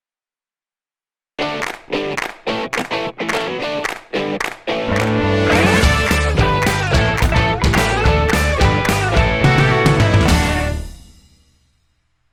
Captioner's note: claps